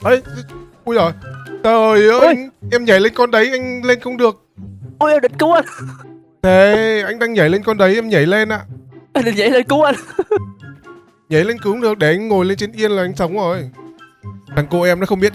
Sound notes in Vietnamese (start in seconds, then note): 9.8 tiếng cười